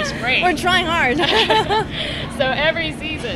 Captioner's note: laughing